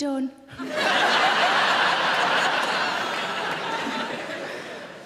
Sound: audience laughing

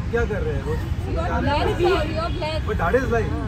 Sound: people talking together

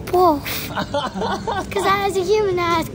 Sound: laughs

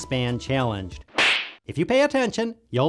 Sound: boxer punch

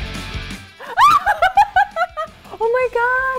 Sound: screams and giggles

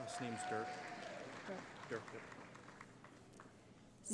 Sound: cheering

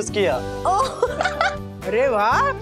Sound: laughing

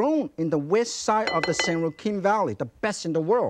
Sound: bowl clinking

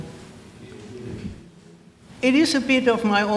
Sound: crowd

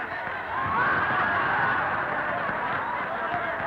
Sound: crowd laughing

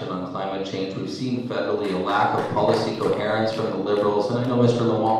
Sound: clapping

